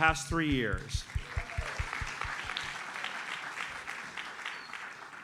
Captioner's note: audience applauds